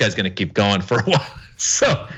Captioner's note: laugh